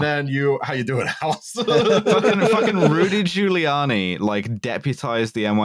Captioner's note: laughter